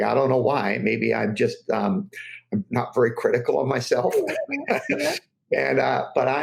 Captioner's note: laughs